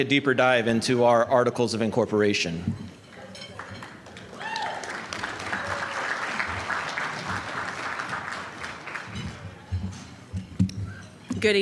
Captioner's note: applause